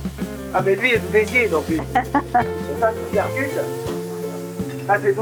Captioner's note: laughs